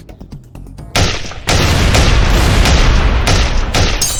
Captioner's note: gun firing